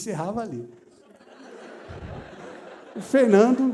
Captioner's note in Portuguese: risos